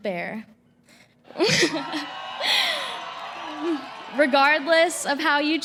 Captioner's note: cheering